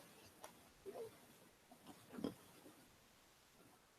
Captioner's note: microphone noise, then silence